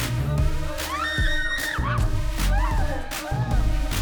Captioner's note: upbeat music; all screaming; upbeat music